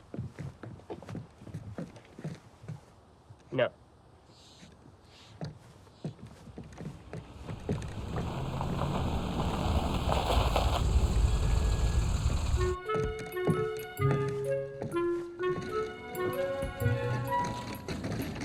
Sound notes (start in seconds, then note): 5.4 shoes clacking; 10.4 car engine rumbles; 12.7 light bouncy music